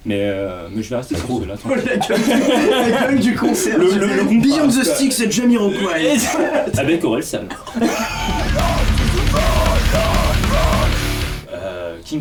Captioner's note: laughs